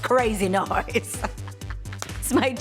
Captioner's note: laughs